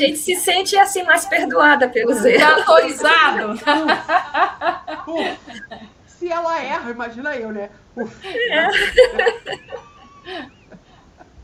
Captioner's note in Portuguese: risadas